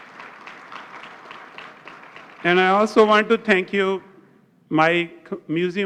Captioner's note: applause